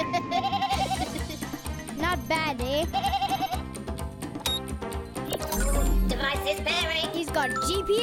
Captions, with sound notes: (bleating) - Not bad eh? (bleating) - Device is pairing. - He's got GPS,